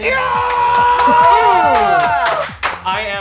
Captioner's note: cheering